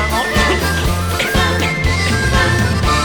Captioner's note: coughing